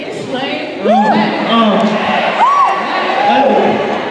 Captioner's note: applause